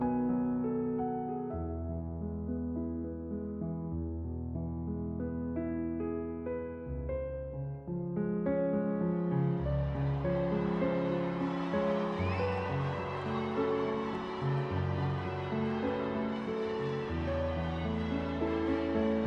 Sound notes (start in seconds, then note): 9.1 bells ringing; 9.5 crowd cheering